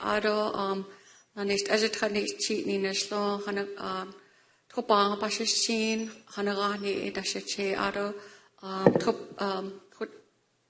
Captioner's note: speaking non-english